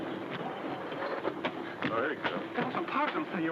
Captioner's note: footsteps thud